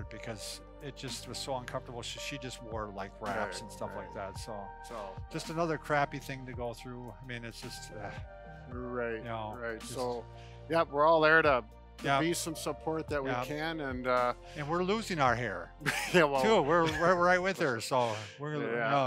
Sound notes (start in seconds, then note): 15.8 laughs